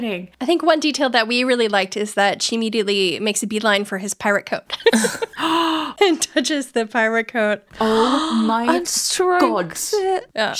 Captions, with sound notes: - I think one detail that we really liked is that she immediately makes a beeline for his pirate coat. (laughing) - And touches the pirate coat. - Oh my god. - And strokes it.